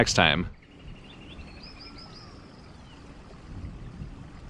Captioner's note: birds chirp